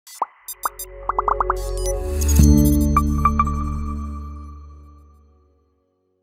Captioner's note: light music; bubbles popping